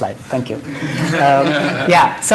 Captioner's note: laughter